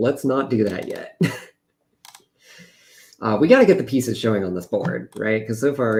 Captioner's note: laughs